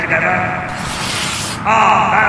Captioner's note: tape ripping